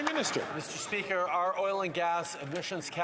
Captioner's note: applause